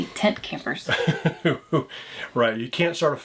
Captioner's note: chuckles